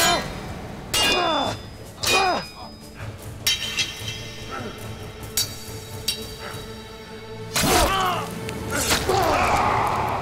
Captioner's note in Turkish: Dövüş sesleri